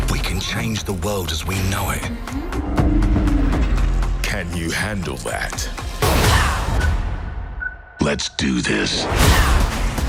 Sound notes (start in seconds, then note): 7.6 beeps